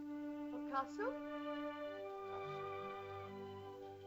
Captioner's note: Loana says "Mother?" in caveman language; soft music